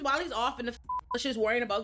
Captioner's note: beep